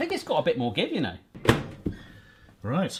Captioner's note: microwave door slamming